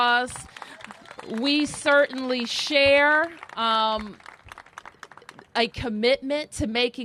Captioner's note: applause